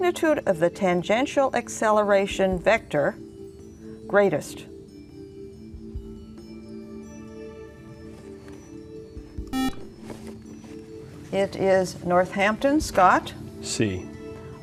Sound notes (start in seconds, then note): 9.5 beeping